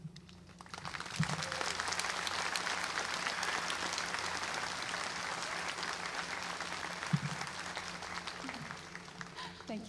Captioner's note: applause